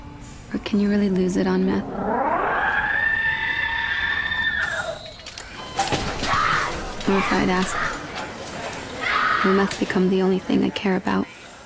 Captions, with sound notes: "Or can you really lose it on meth?" [distorted screaming] [girl yells] Or, if I had asked, "Will meth become the only thing I care about?'"